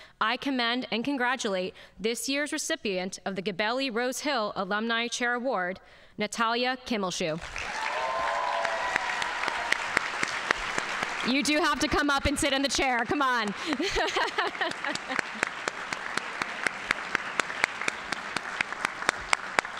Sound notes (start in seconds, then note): 8.1 audience applauding; 13.5 laughs; 15.4 audience applauding